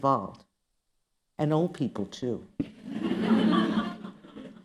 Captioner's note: laughter